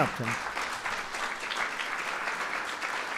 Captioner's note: applause